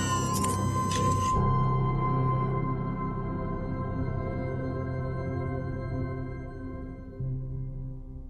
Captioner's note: mechanical whir